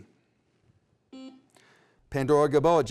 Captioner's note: beep